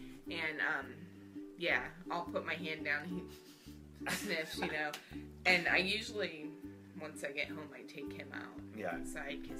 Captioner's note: sniff sniff sniff